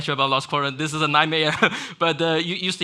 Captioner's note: laughs